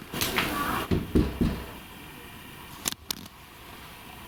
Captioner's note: three knocks